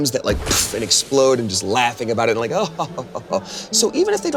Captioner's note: laughing